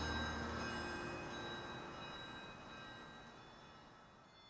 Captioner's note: train bell dinging